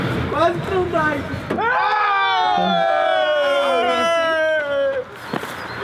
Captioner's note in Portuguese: todos gritam comemorando